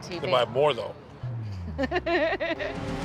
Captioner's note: laughs